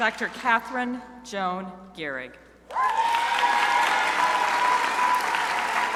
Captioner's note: crowd applauding